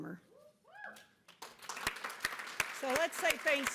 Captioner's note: cheering and applause